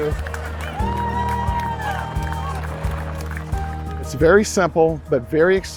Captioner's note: crowd cheering